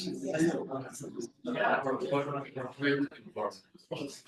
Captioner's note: people chattering